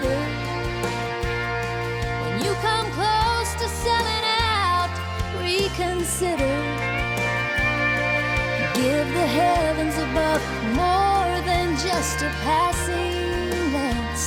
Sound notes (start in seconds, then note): none